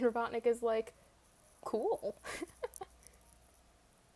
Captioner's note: laughs